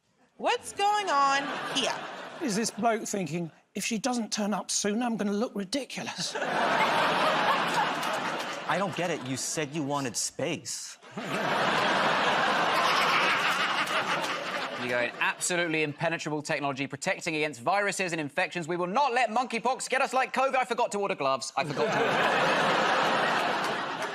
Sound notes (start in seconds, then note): 6.1 laughter; 11.0 laughter